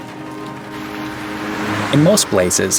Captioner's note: rain pouring